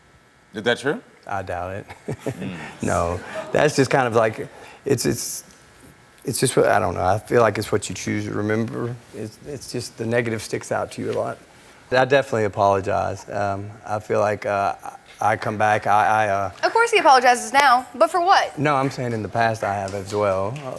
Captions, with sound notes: - Is that true? - I doubt it. (laughs) No, that's just kind of like... I don't know. I feel like it's what you choose to remember. It's just, the negative sticks out to you a lot. I definitely apologized. I feel like I come back, I- - Of course he apologizes now. But, for what? - No, I'm saying in the past I have as well.